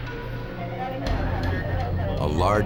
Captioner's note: police radio chatter